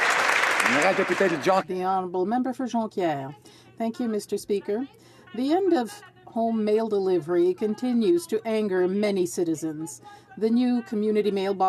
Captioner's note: some Applause